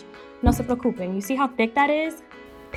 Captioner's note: speaking foreign language